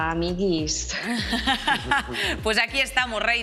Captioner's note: laughter